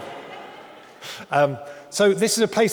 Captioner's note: audience laughing